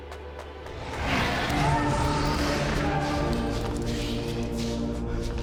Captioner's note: dinosaurs screeching